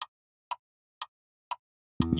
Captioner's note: clock Ticking